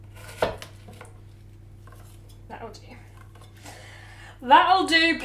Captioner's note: chopping sounds